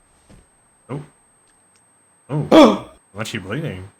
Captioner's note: gasps